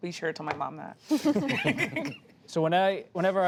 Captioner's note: laughter